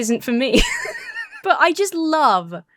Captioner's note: laughs